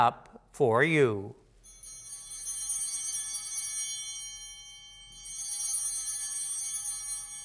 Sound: chimes ringing

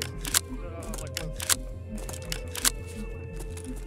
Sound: mumbles

